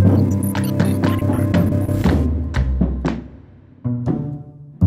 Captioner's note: electronics crackling